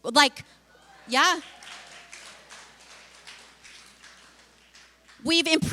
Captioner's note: applause